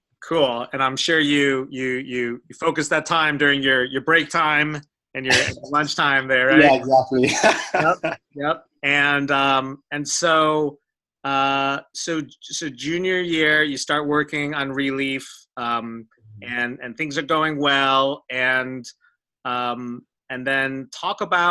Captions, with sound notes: - Cool, and I'm sure you focused that time during your break time and your lunchtime there. - Yeah, exactly. (laughs) - And so junior year you start working on Releaf and things are going well and and then talk about going